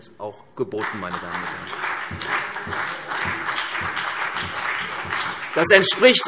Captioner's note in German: Beifall CDU und BÜNDNIS 90/DIE GRÜNEN